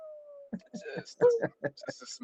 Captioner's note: laughter